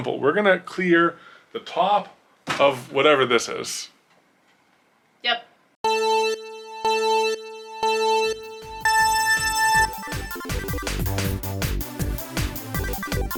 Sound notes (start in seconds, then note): 5.9 video game countdown; 10.2 video game music